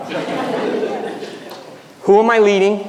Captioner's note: audience laughing